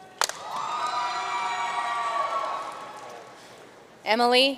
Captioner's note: audience cheering and applauding